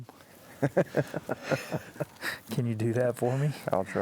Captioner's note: laughing together